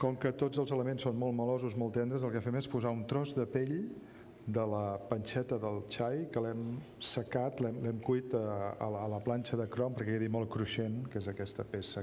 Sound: speaking catalan

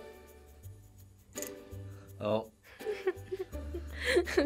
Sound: coins rattle; laughs

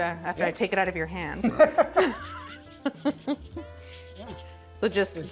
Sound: both giggling

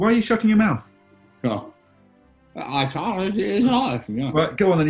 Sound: mumbles

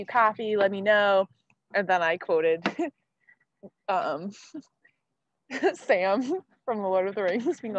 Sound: laughing

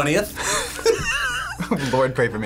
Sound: both laugh

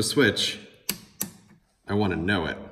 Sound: click click

